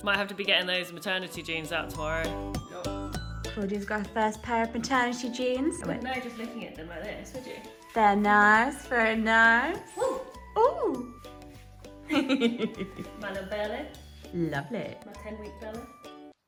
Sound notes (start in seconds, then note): 2.8 gentle music; 12.0 laughs